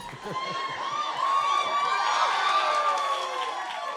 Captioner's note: cheers and applause